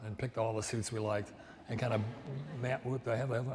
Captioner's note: audience laughs